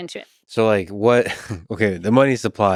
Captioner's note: chuckles